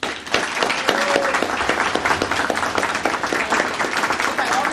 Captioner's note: audience applauding